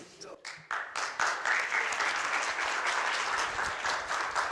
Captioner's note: applause